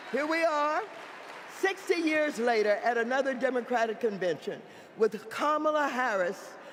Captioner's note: applause